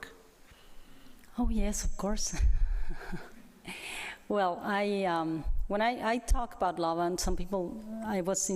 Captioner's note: laughs lightly